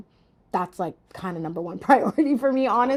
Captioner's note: laughing